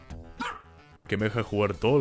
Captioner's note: bark